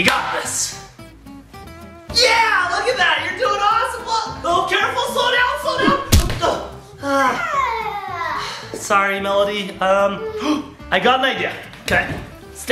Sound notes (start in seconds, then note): 5.8 thuds; 7.1 dad sighs; 9.8 dad gasps